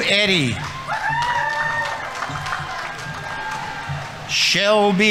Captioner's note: audience applauding; audience members cheering